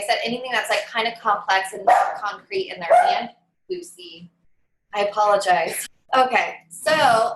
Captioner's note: dog barking